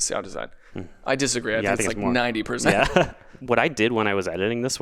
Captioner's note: laughs